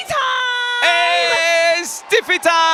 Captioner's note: laugh